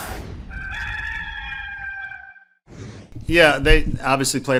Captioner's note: rooster crows